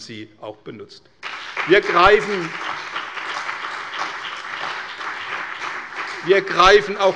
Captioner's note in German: Beifall bei der CDU und dem BÜNDNIS 90/DIE GRÜNEN